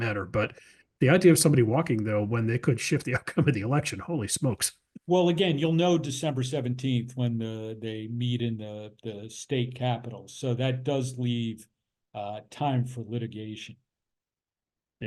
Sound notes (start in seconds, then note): 3.0 laugh